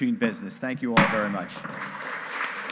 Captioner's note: gavel banging; audience applauding